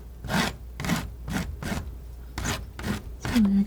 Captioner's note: scratching